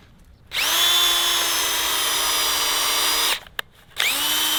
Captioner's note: drill running